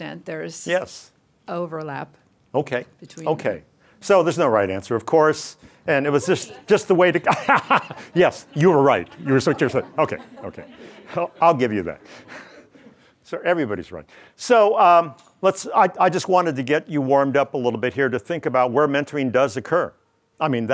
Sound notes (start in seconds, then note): 6.1 laughs